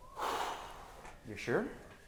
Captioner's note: sighing